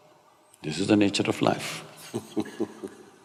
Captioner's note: Matthew laughs